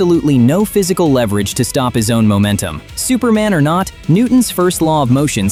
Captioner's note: thoughtful